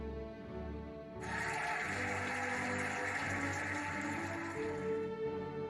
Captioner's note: cheering and applauding